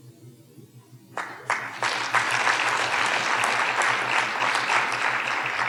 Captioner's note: audience applauding